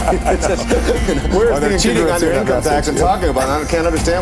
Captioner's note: laughter